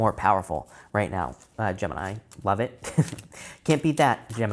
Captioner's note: chuckles